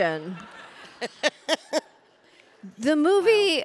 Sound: audience laughing; Pamela laughing

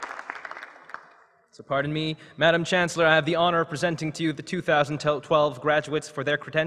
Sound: applause

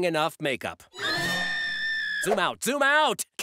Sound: screaming

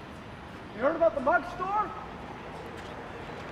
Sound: yelling

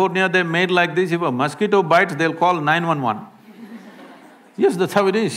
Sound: laughter

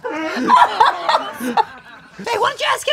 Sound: Peach laughs

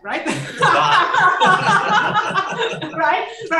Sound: laughter

